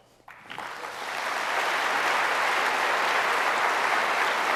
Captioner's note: applause